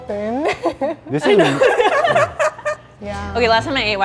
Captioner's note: laughing